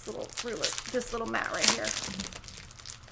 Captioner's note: plastic wrapper crinkles